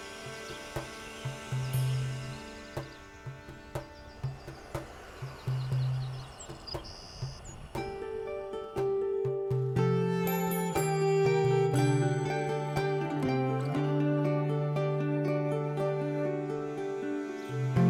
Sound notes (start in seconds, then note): 0.1 soft drumming; 5.5 birds chirping; 7.8 gentle string music